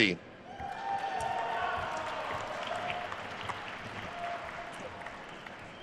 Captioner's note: attendees cheering and applauding